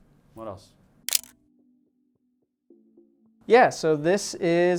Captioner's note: camera shutter clicks